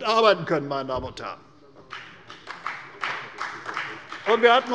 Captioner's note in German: Beifall bei der CDU und dem BÜNDNIS 90/DIE GRÜNEN